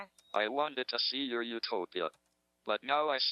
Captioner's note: electronic Voice